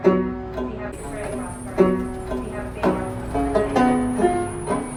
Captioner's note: escalator squeaking